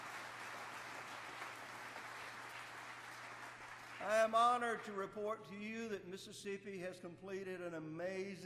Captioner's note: applause